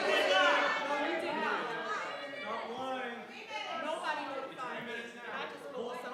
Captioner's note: public interjecting in disagreement